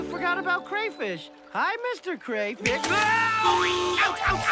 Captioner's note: screams; horn blares